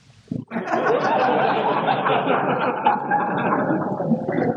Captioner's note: laughter